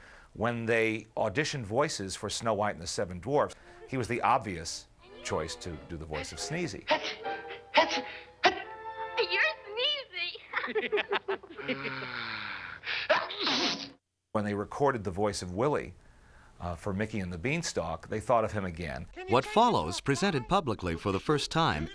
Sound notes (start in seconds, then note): 8.8 Dwarfs Laugh; 11.5 sighs